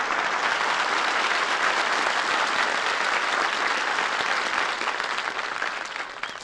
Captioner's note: applause